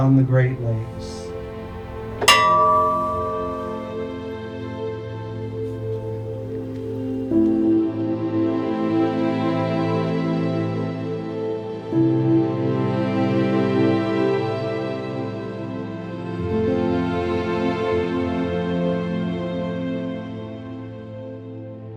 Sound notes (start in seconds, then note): 0.0 bell rings; 2.2 bell rings